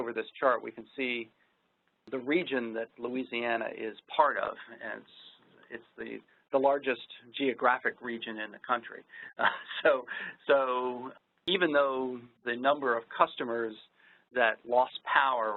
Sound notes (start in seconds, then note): 9.3 laughs